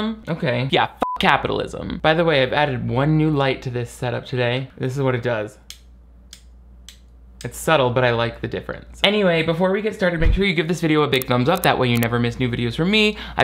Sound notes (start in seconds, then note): 1.0 beep; 6.3 light switch clicks